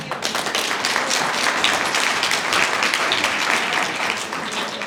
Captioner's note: applause